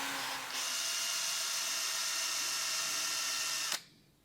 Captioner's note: drilling sound